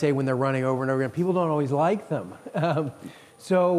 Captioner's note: giggles